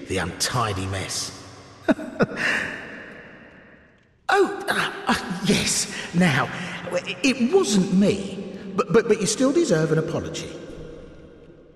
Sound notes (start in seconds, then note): 1.9 laughing